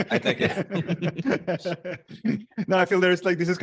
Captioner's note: laughs